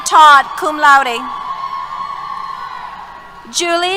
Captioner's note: cheers